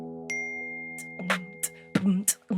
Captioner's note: phone chimes; beatboxing